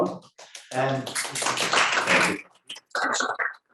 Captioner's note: audience applauding